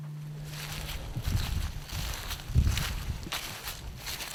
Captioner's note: leaves crunching